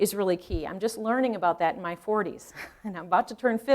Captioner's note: chuckling